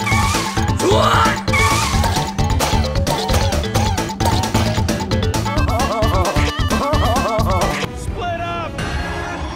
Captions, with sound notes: What?! [gunshots] *idiotic laughter* Split up!